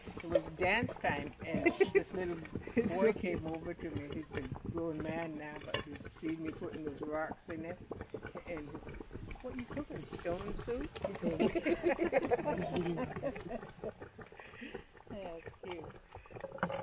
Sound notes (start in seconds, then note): 11.2 laughter